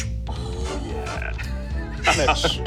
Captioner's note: scoffs